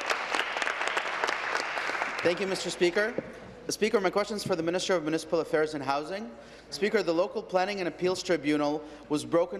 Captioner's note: applause